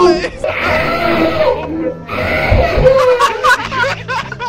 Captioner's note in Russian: Отчаянные крики о помощи в перемешку с ржачем